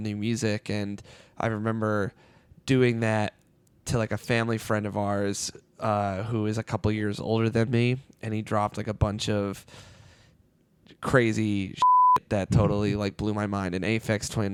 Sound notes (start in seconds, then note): none